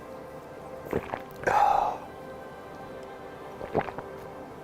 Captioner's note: gulps and sighs